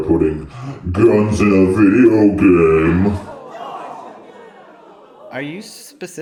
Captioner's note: gasps